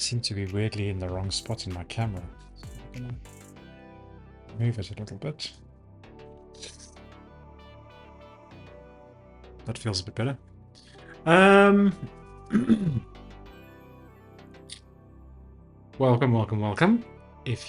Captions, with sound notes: I seem to be weirdly in the wrong spot in my camera. Move it a little bit. That feels a bit better. (clears throat) Welcome, welcome, welcome.